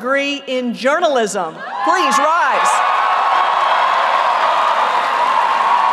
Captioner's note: applause